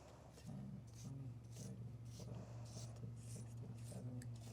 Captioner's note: coins scratching